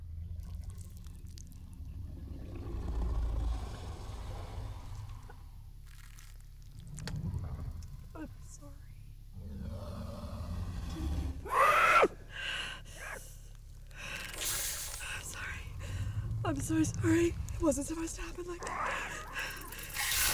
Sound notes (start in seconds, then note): 2.0 growling; 11.4 shrieks; 13.8 heavy breathing; 20.1 animalistic sounds